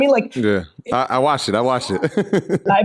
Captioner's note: laughs